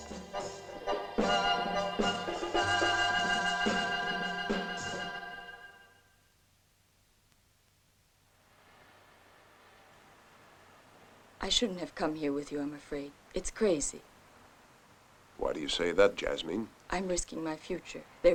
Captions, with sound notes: [TRAFFIC HUMMING] I shouldn't have come here with you, I'm afraid. It's crazy. Why do you say that, Jasmine? I'm risking my future.